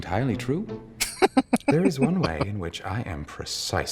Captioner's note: laughing